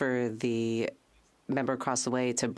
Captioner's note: speaking French